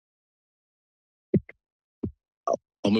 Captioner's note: microphone thump noise